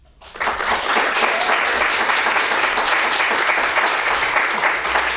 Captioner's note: audience applauding